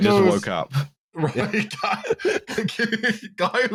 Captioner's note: laughing; laughs; laughter